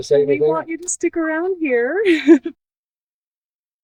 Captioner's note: laughs